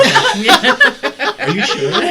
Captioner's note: all laugh